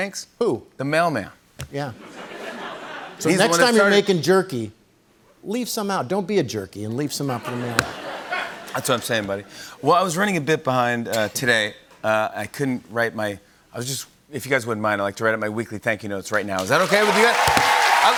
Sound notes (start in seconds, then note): 2.0 laughter; 7.4 laughter; 16.6 cheers and applause